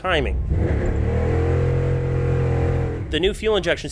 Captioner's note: car engine roaring